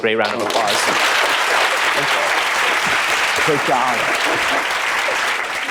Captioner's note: applause